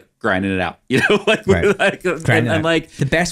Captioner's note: laughing